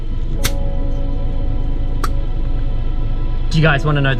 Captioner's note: bottle opening